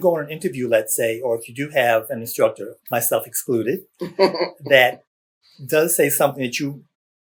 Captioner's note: laughter